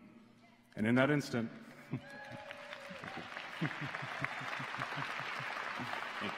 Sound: applause

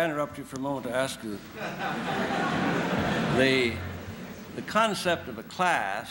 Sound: laughter

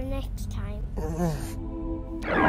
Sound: grunt

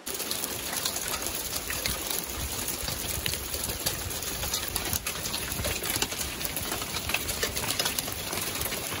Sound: sound of the rain

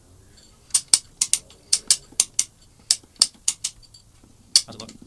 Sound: metal clicking

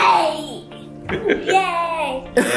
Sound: laughs

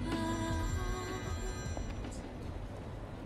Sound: phone ringing

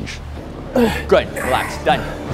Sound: grunting

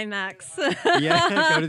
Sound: laughs

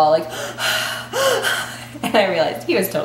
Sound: panting heavily

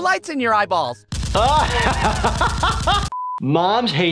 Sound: strobe flash noise; laughing; beep

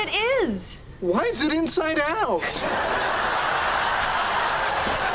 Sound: audience laughs

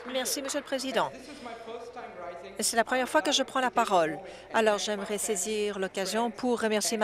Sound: applause

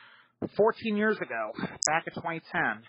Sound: none

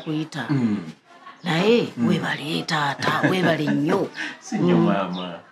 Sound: chuckles

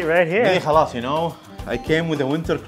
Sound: speaks foreign language

